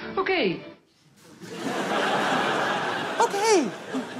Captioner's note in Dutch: Gelach